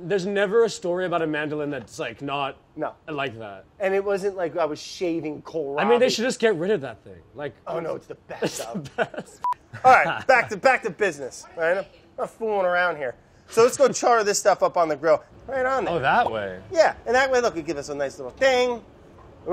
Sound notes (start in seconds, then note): 8.1 laughs